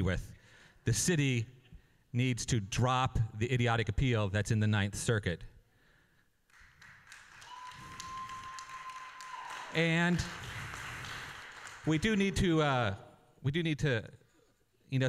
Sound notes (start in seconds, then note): 6.5 applause